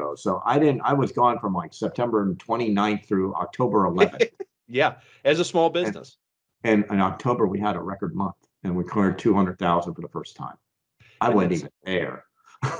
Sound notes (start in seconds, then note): 3.1 laughs